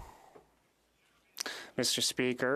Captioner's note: speaking French